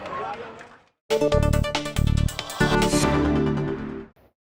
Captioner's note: applause